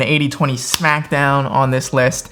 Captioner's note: hands tap